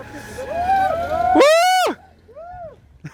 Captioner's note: random screaming